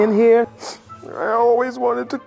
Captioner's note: sniffing